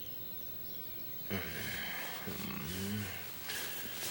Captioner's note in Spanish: pássaros cantando